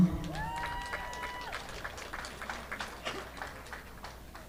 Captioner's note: audience applauding